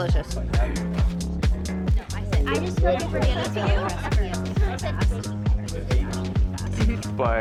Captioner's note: people chattering; upbeat music